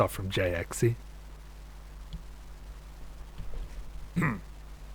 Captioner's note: clears throat